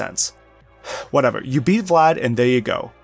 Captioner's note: sigh